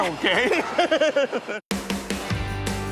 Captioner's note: laughs